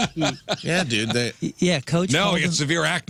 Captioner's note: laughing